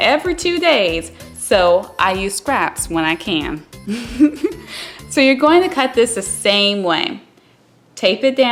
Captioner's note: laughs